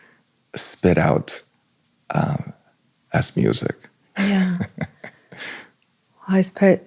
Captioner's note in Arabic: ضحك